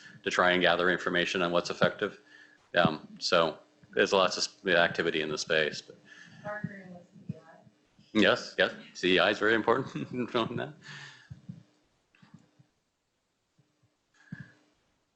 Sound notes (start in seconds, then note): 9.0 chuckles